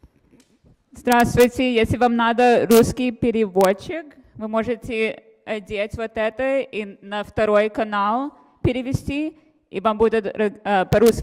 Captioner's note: speaking russian